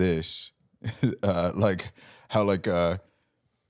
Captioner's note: laughs